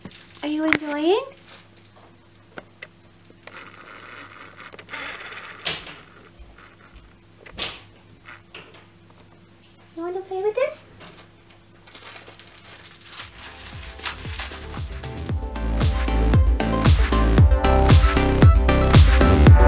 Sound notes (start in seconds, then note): 10.9 crinkles